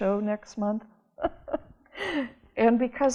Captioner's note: laughter